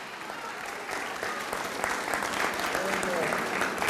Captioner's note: audience applauds